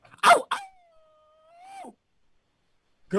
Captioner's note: howling